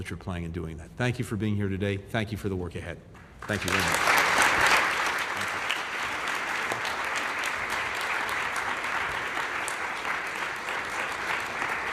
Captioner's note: applause